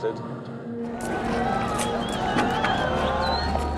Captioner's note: crowd cheering